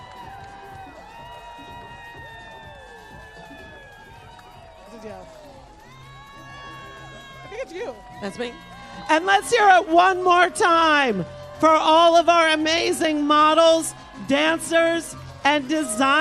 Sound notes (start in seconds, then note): 0.6 cheers and applause